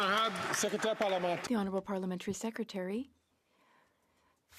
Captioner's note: some Applause